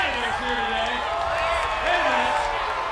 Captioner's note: applause